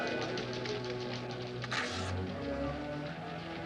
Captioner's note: typewriters clicking